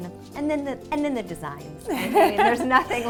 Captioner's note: laughs loudly